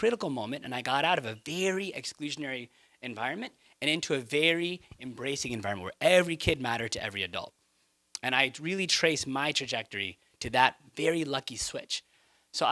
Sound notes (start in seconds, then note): none